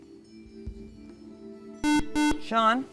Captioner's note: buzzer